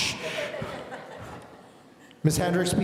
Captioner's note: audience laughing